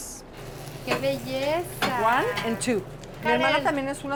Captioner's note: speaking Spanish